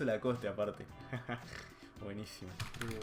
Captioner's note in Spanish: risa chancho